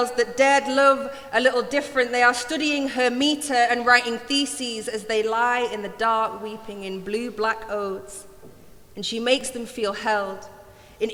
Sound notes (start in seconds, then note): none